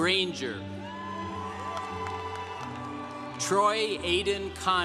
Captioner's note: congregation cheering